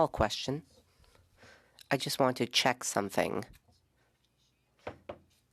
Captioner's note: speaking French